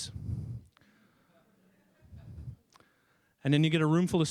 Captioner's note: people chuckling